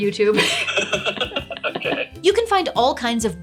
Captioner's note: laughs